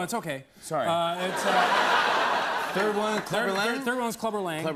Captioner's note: laughter